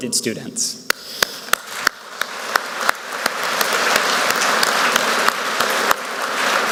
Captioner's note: speaker and Audience members clapping; audience members clapping